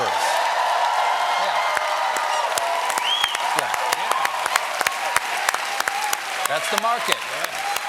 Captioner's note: cheers and applause